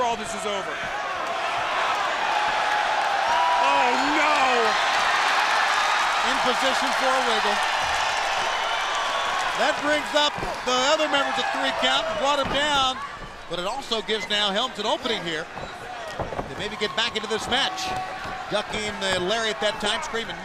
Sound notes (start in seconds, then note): 7.1 crowd chatter; 9.2 crowd cheering